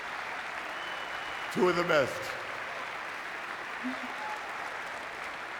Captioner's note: sobs